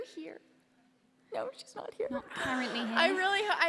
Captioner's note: laughter